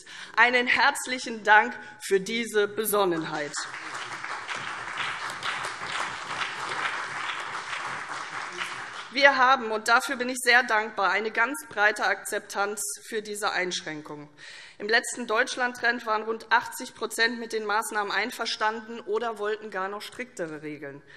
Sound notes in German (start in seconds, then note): 3.1 Beifall CDU, BÜNDNIS 90/DIE GRÜNEN, SPD und vereinzelt DIE LINKE